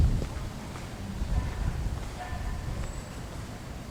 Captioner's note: city Noise